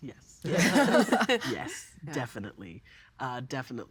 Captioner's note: all laughing